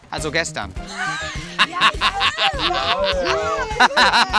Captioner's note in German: Lachen, Ekellaute